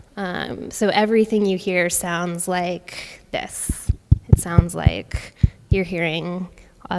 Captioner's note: taps on microphone